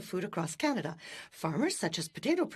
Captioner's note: speaking French